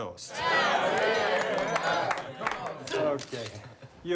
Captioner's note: crowd cheering